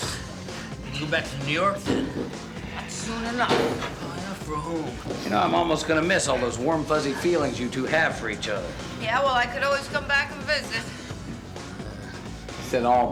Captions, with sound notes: You can't even get out of your own way. (sighs and mutters)